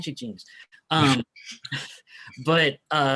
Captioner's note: chuckling